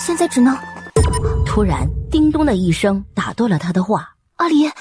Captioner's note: ding-dong